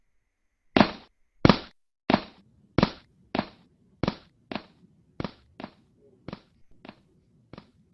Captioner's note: footsteps